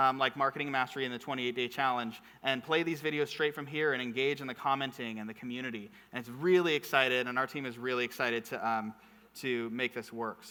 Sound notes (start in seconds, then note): none